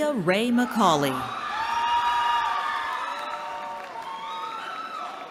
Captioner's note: cheering